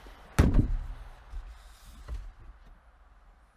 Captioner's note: fist thuds